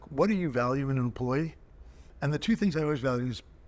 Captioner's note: none